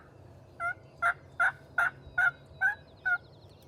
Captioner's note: turkey calling